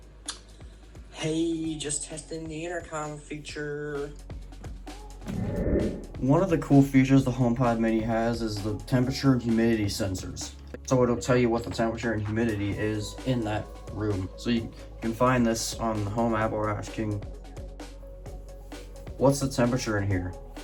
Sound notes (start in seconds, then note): 5.2 transition sound effect